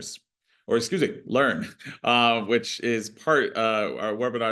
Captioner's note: chuckles